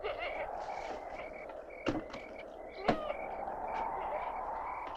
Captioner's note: wind continues whooshing